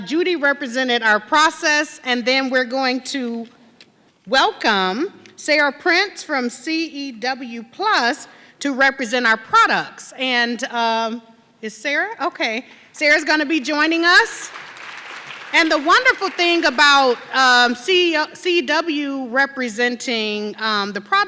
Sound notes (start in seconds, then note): 15.5 audience clapping